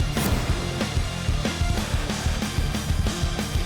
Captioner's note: slicing